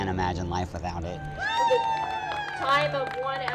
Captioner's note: crowd cheering